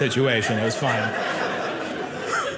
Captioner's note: audience laughing